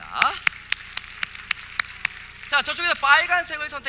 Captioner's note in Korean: 박수